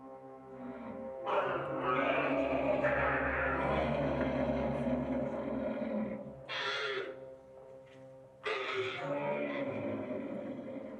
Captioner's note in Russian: рев верблюдов